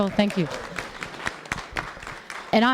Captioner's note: applause